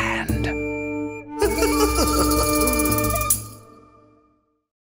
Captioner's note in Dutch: lacht